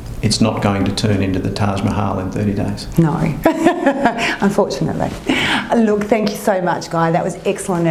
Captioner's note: laughter